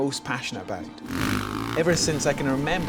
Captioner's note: motorcycle revs